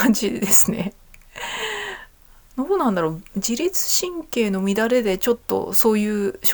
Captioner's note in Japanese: 笑い; 息をのむ音